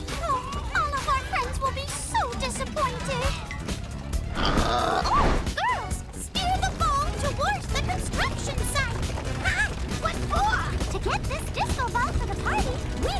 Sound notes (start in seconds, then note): 0.1 sighs; 4.3 pig oinks